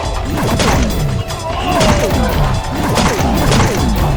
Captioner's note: sword thwacking